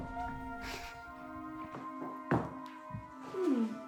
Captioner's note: crying; dramatic music